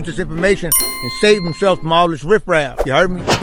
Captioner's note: bell dings